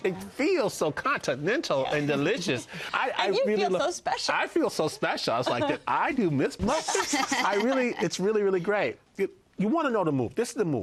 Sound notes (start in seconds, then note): 6.6 laughter